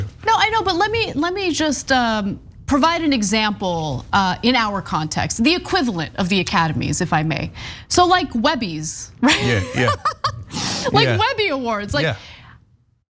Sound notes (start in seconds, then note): 9.2 laugh